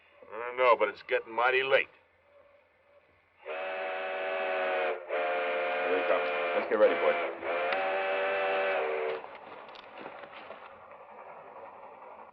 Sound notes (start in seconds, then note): 3.4 train honks; 9.4 train in the distance